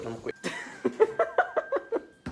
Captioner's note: laughters